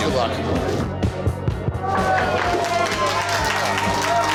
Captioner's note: cheering